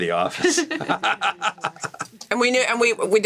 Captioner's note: laugh